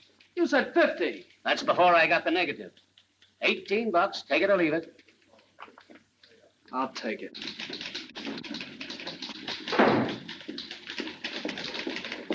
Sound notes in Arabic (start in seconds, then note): 7.3 نقرات على مفاتيح الآلة الكاتبة